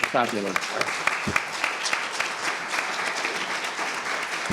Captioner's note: audience applause